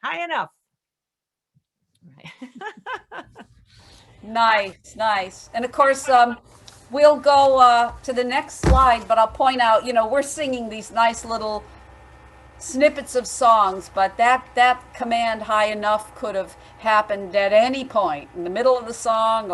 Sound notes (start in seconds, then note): 2.2 laughing